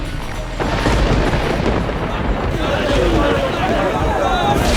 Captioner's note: thunder crashing